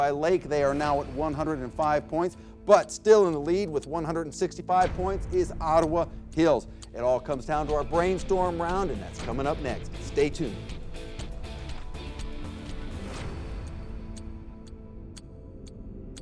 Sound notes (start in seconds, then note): 10.7 dramatic electronic music; 12.9 clock ticking